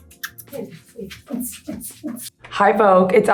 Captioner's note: beat boxing; lip smacking; gentle upbeat music